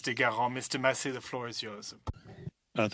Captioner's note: speaking French